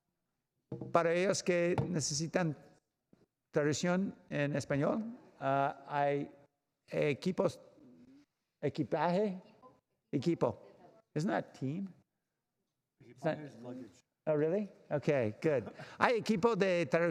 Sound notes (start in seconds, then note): 4.2 spanish